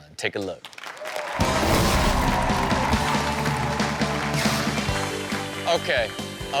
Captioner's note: audience applauds and cheers; upbeat rock music